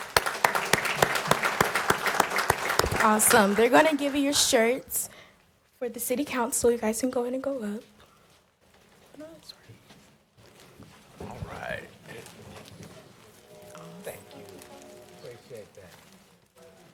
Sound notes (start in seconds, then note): 5.3 applause